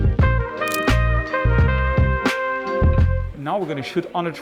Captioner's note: camera shutter clicks